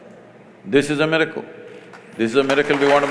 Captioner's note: applause